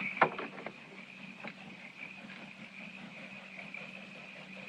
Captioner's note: chirping Quiets